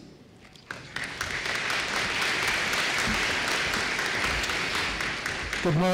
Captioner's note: applause